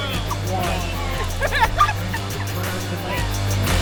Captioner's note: laughing/music